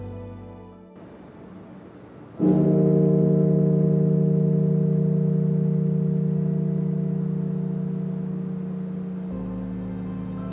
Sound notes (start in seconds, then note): 2.4 bell tolling; 5.5 somber music